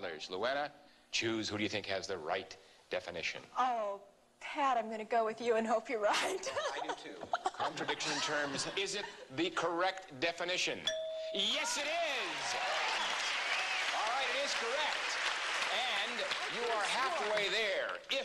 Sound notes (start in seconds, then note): 10.8 ding; 11.8 applause